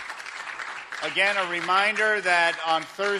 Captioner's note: applause in background